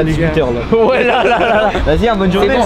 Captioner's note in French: rires